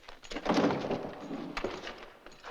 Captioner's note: door opening